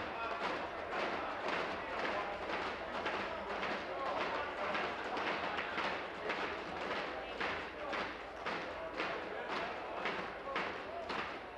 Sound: tapping on desks

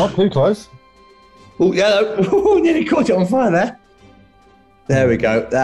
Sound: laughs

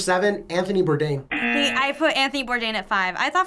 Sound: buzzer

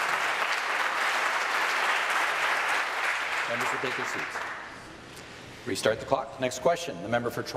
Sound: applause

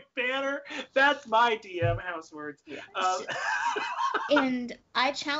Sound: laughing

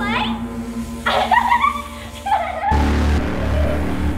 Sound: laughing

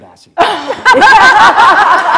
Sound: laughter

